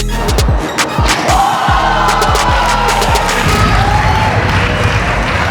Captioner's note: spectators applauding